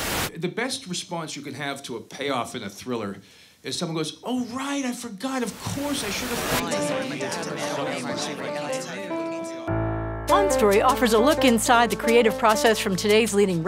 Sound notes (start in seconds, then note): 6.5 multiple voices chattering